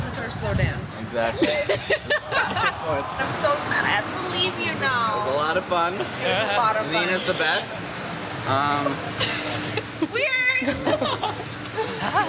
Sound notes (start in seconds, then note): 1.3 laughs; 8.9 laughs